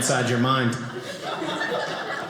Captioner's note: audience laughing